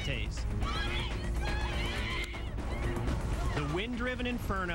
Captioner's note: indistinct screaming